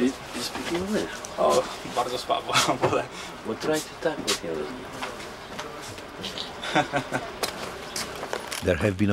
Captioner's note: speaking Polish